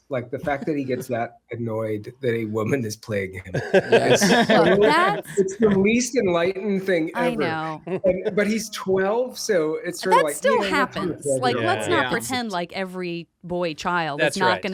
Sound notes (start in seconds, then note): 3.4 they laugh